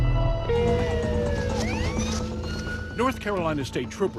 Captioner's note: police siren blaring